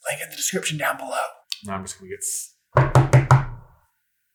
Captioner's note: tap tap tap tap